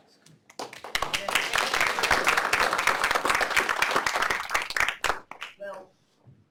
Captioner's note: applause